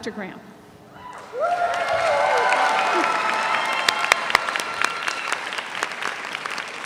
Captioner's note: audience cheers; audience applauds